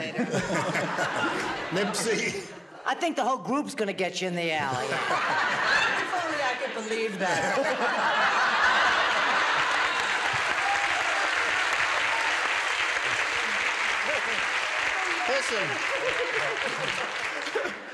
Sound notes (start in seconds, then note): 0.0 laughter; 7.2 laughter; 10.1 applause